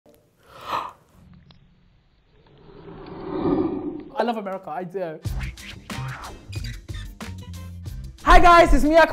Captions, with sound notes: (gasp) - I love America. I do. (soft music) Hi guys.